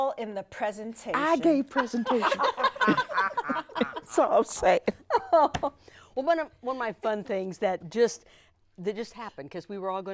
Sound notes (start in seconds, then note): 1.9 everyone laughs